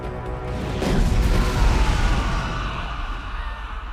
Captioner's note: men yelling and screaming